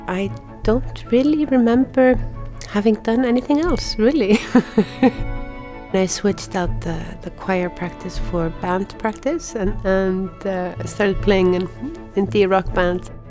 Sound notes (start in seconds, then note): 4.3 laughing